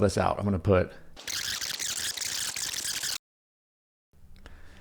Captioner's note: rapid beeping